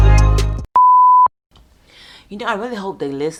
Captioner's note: static beep